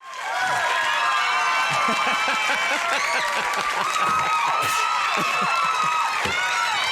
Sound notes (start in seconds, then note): 0.0 audience cheers; 1.8 Conan laughs